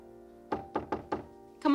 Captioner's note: knocks at door